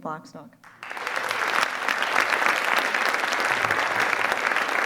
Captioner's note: audience applause